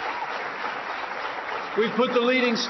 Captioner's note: applause